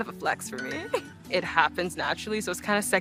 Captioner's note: phone chiming